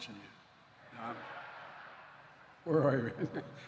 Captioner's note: laughter